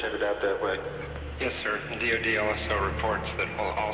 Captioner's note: male voice over radio